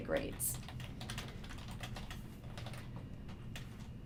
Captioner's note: keyboard clacking